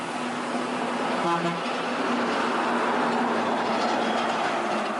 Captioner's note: car horn